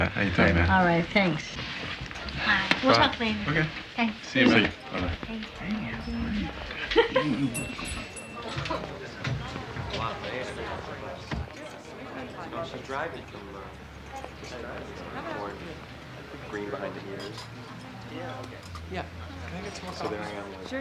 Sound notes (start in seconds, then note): 4.7 door bells jingle; 6.1 chatter, laughter